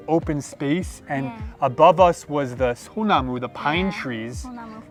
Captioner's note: speaks Korean